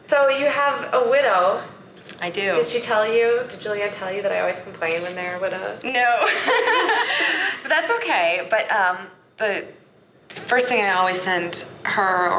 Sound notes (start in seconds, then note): 6.2 laughs